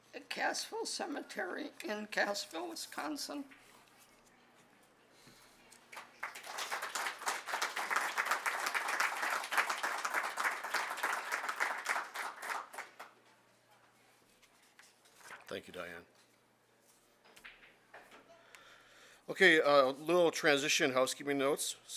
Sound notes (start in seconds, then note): 5.9 audience clapping